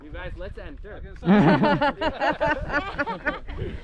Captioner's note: laughter